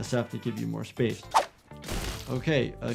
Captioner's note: gunshot fired